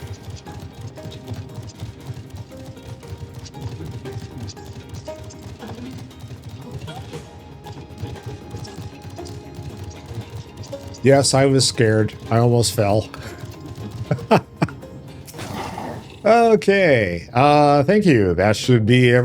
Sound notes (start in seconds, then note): 6.4 gun firing; 14.8 laughs